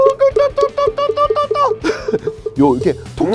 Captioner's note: sound of a pig being sacrificed